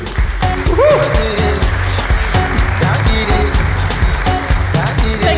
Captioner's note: applause